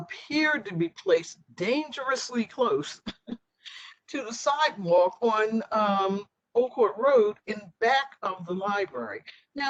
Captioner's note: laughter